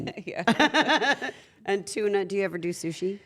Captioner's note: laugh